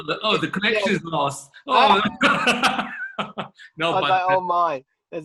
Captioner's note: chuckling